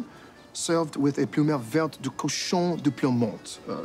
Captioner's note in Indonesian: berbicara bahasa prancis